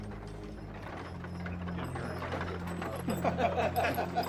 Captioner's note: townsfolk bustling; gang laughing